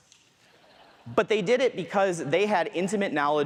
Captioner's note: audience laughs